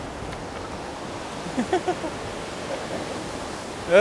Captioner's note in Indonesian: tertawa